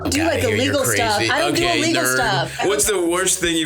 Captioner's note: beeps